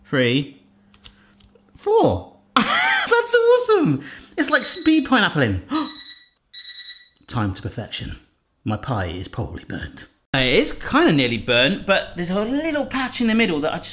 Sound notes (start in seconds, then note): 2.6 laughs; 5.8 timer beeps; 5.9 gasps